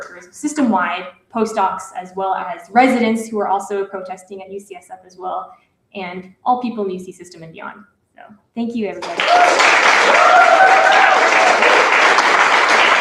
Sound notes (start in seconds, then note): 9.0 applause; 9.0 cheering